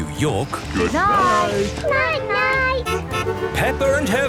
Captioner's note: honking